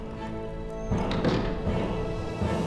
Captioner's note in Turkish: Kapı kapanma sesi